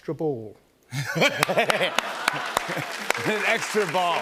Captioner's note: laughter and applause